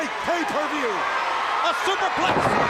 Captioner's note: crowd cheering